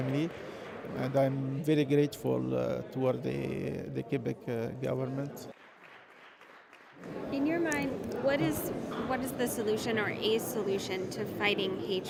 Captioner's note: applause